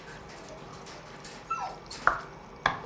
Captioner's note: dog whimpering